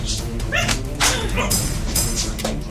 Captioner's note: smack